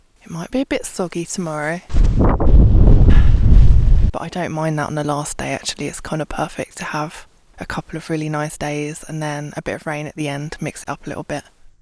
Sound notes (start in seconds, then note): 1.8 rain & wind